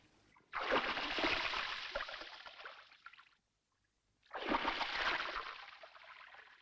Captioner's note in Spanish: ruido en el agua